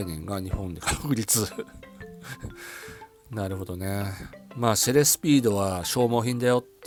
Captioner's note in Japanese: 笑い